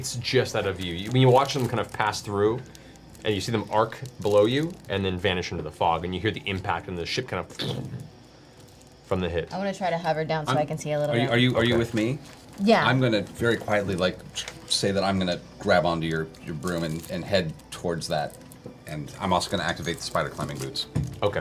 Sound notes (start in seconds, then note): 8.1 impact noise